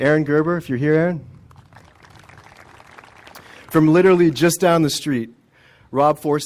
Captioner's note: applause